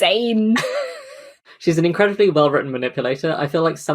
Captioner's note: laughs